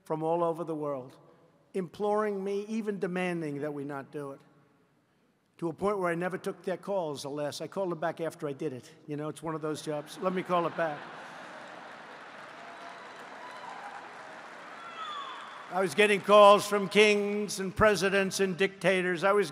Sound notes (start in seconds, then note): 9.9 laughter; 10.2 applause